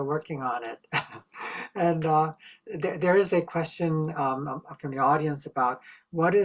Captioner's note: laughter